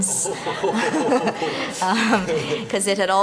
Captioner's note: laughter